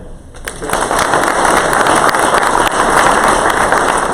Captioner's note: crowd applause